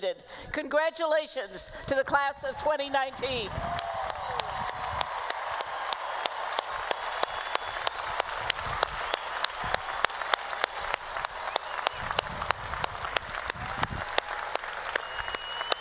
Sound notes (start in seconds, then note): 3.0 applause